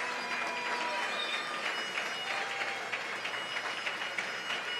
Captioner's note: cheers and applause